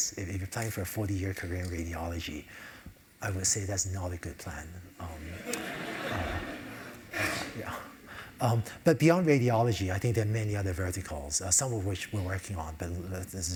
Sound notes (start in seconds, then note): 5.2 laugh